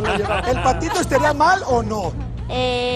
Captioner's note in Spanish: Ríe